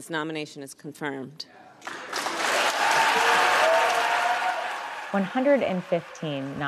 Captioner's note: cheers and applause